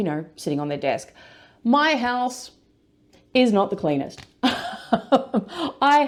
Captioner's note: laughs